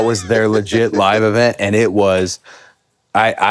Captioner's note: Finn laughs